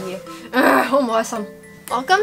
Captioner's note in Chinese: 怒吼